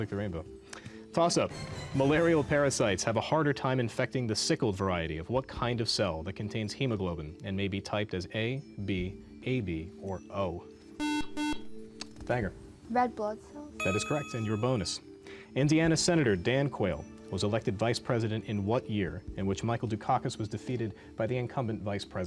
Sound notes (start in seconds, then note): 11.0 buzzer